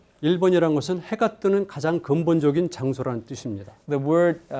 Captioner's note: speaking in Korean